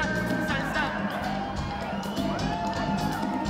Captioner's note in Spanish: Gritos y exclamaciones